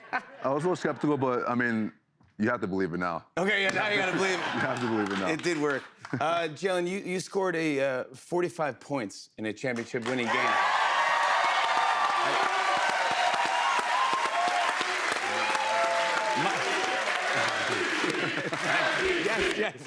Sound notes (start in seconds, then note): 10.5 cheers and applause